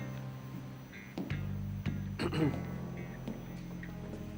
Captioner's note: throat clearing